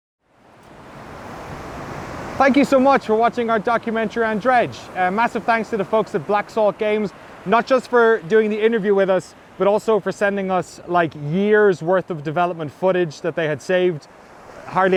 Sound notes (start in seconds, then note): none